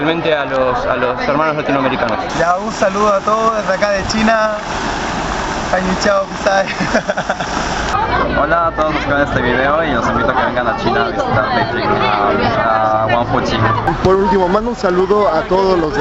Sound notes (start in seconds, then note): 6.6 laughs